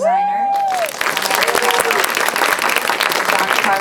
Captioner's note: applause